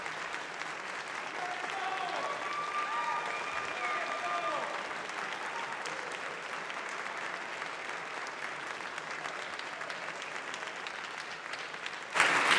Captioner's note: applause